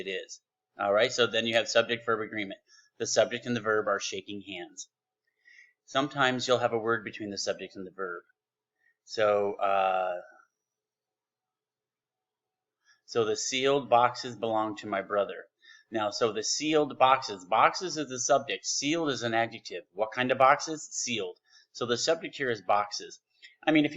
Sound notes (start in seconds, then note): 10.6 silence